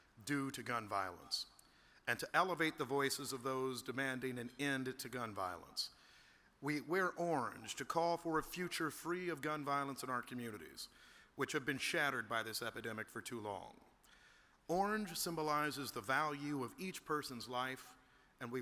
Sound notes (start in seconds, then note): none